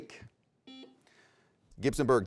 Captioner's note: buzzer rings